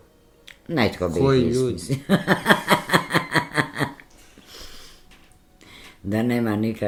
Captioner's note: laughter